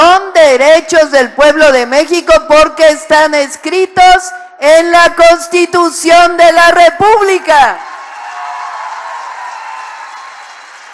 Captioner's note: applause